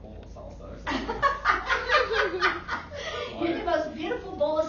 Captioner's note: laughing